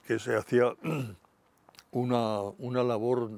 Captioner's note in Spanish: Carraspea